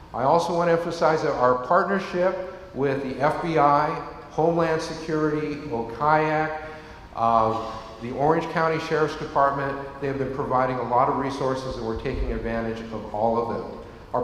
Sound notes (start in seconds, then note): none